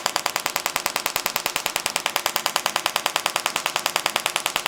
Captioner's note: machine tapping continues